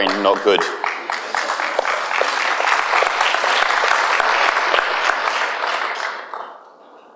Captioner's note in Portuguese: aplauso